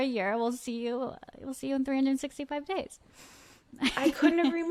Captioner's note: laughs